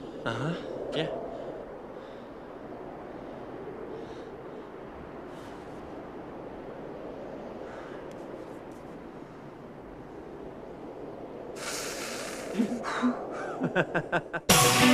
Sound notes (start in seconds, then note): 12.4 carter laughs